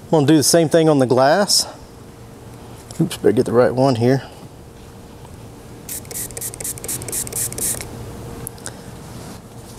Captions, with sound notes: I'm gonna do the same thing on glass. Oops, better get the right one here. (bottle spraying)